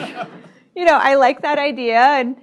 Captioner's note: laughter